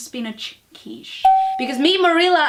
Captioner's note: ding